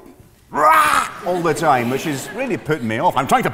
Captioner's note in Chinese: 尖叫聲